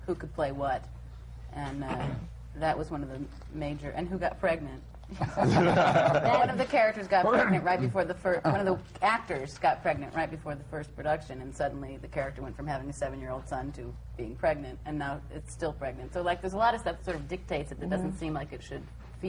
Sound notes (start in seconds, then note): 7.8 laughter